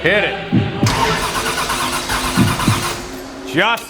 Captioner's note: engine straining